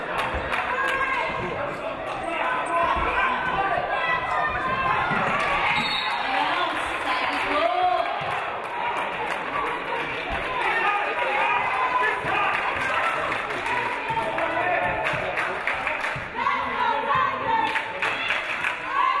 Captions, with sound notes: (referee blows whistle) Out of bounds, Tiger's ball.